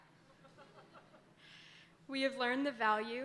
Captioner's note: audience laughing